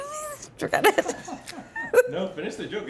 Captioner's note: laughs